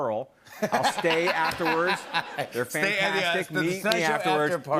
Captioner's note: laughter